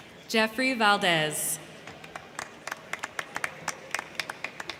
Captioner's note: crowd clapping